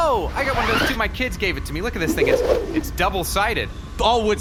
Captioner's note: much cooler woodsaber-whooshing sounds; unzipping sounds